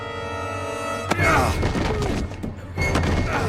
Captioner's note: groan